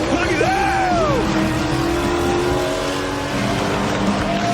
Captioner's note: engines rumbling; cheers and applause